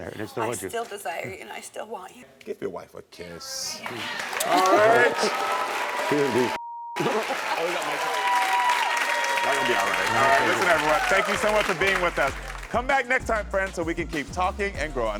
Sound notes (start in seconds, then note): 3.8 audience cheering; 6.6 beep; 6.9 audience cheering